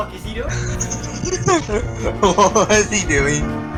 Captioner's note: giggling of an evil, evil man